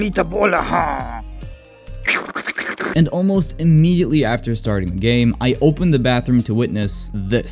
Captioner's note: slurps but Italian